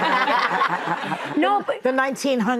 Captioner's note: audience laughing